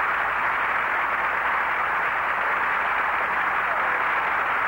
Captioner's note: applause